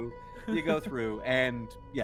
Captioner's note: Cornette laughs